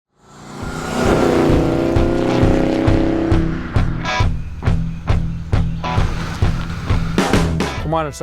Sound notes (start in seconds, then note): 0.2 car engine revving; 4.5 upbeat rock music